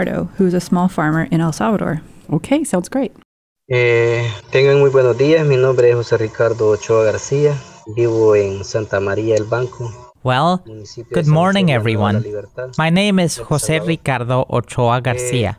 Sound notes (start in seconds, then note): 4.6 foreign Language